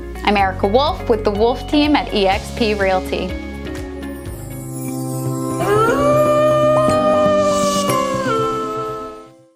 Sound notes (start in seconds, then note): 3.2 energetic music; 5.5 wolf howling